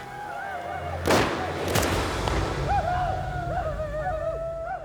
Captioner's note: gunfire, yelling